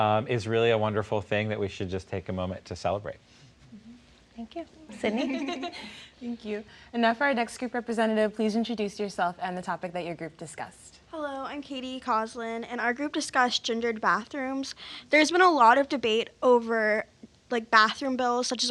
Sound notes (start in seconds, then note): 5.0 panelists giggling